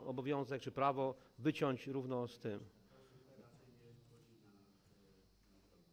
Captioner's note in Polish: Głosy z sali